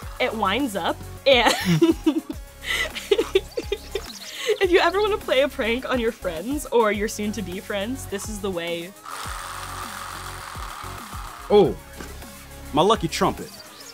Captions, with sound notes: It winds up and... [laughing] If you ever want to play a prank on your friends, or your soon-to-be friends, this is the way. [vibrating] Oh. My lucky trumpet.